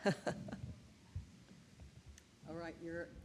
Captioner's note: laughs